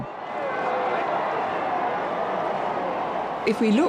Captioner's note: crowd cheering